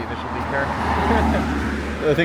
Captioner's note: laughing